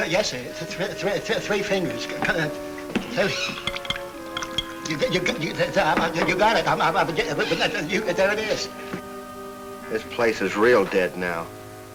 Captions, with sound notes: - Yes, sir, three fingers. (Danny stutters) There it is. - This place is real dead now.